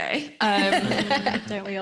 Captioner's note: laughs